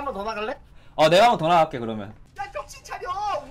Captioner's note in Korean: 심호흡